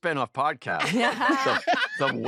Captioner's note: laughter